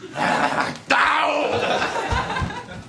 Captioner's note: smack